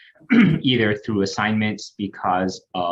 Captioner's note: clears throat